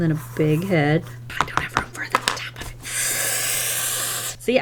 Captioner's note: sharp inhale